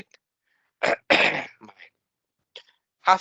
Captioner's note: coughing